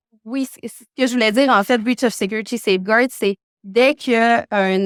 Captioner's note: speaking French